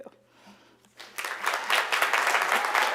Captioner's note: applause